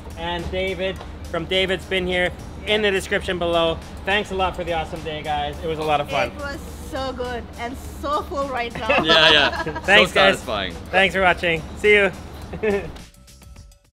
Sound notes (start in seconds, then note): 12.5 chuckles